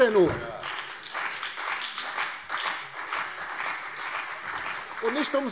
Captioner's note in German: Beifall CDU und BÜNDNIS 90/DIE GRÜNEN